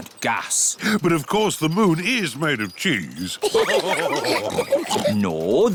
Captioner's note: all laugh